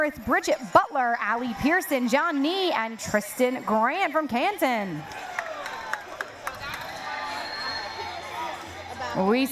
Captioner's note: cheering